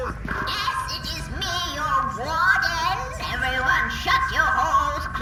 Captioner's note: with a megaphone, in an imperious little voice